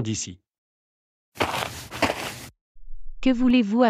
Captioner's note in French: FX - Footsteps - On Multiple Dirt - Walk